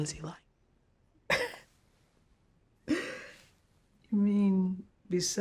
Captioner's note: chuckles